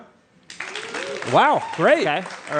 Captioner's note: applause